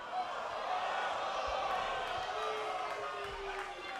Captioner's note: crowd boos